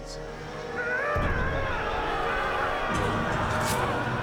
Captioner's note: yelling